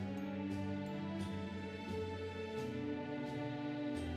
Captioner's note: none